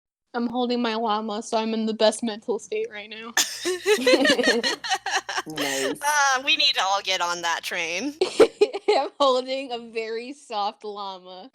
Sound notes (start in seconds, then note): 3.4 laughter; 8.5 laughter